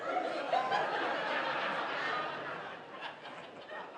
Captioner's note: laughter